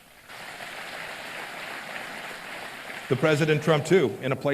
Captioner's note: applause